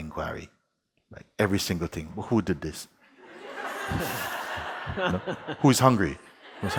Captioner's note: laughter